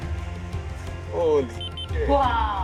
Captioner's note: beep